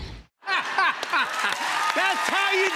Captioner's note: laughs; cheers and applause